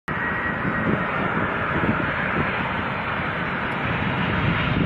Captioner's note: plane engine roaring